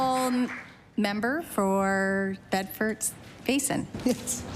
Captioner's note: applause